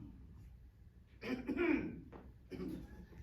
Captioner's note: clears throat